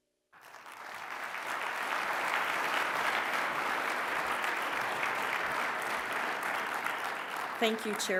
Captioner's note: applause